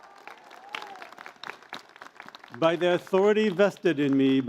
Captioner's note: applause